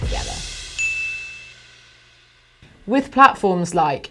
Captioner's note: bell dinging